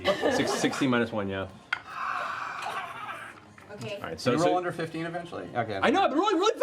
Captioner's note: sigh